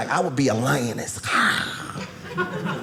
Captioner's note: growl